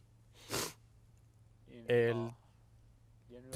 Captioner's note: sniffles